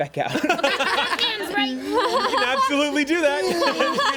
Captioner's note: everyone laughs